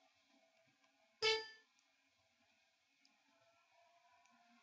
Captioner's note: electronic beep